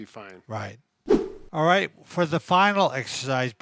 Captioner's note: air swoosh